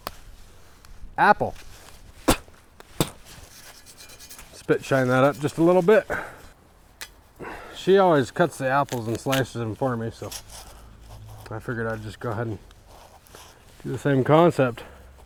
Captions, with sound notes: Apple. (spits) Spit shine that up just a little bit. She always cuts the apples and slices 'em for me so, I figured I'd just go ahead and do the same concept.